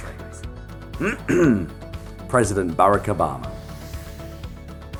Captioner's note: ahem